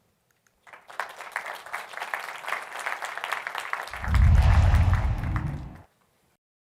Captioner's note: applause